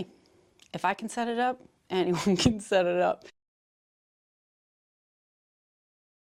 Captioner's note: laugh